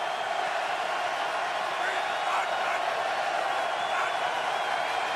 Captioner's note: cheering